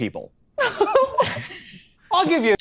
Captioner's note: everyone laughs